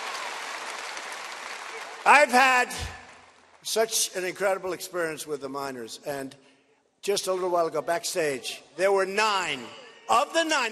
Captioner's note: cheers and applause